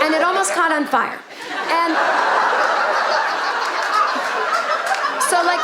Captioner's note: audience laughing